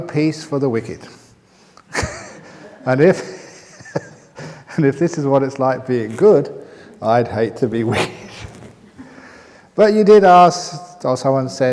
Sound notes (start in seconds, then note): 2.5 chuckles